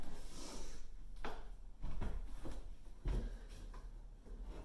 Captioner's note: Leona sniffles